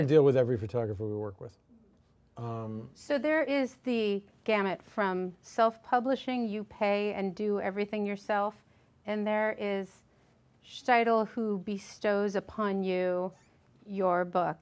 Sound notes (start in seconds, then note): none